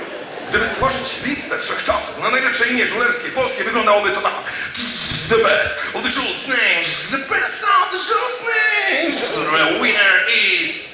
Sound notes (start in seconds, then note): 4.7 imitating drum roll